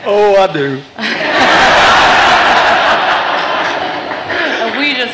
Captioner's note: laughter